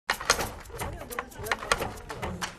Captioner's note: sounds of film crew setting up